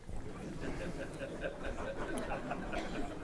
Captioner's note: laughter